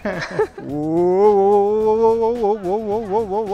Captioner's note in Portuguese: risos